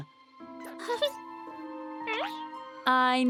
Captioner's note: caterpillar noises